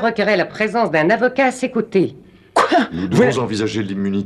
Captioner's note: scoffs